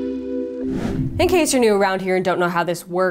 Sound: screen whooshing

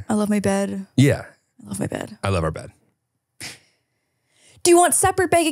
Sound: chuckles

